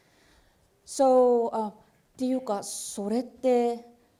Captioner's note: speaking japanese